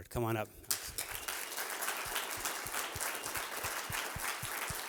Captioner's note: applause